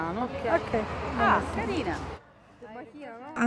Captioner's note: woman #2, in italian